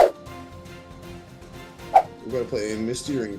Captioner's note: whooshing